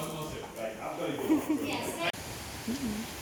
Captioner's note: laughs